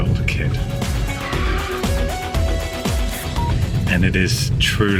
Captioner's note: brakes screeching